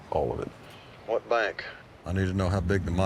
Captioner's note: on phone